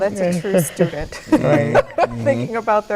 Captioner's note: laughing